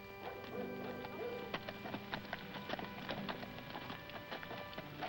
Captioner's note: somber music; dog barking